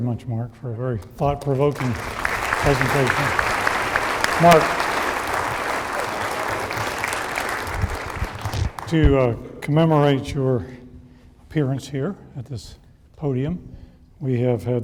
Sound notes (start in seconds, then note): 3.7 applause